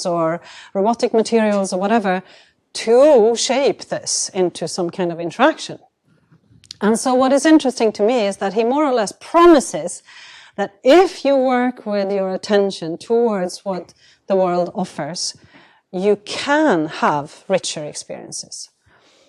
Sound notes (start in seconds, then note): none